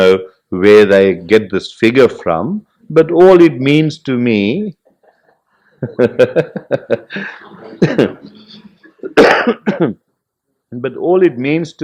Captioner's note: laughs